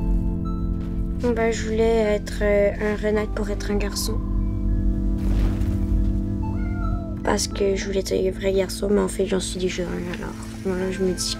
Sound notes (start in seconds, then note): 0.3 Milo speaking in French; 6.4 meowing